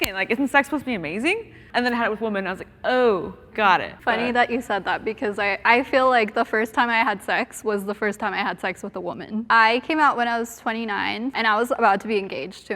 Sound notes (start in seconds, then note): none